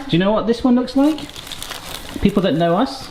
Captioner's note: packaging rustling